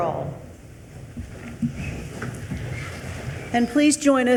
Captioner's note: attendees rustling